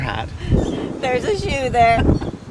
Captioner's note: laughs